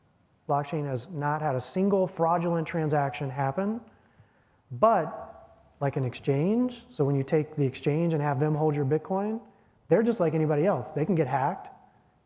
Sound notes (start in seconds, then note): none